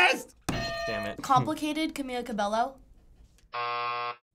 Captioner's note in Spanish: buzzer